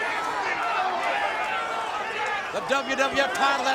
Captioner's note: crowd chattering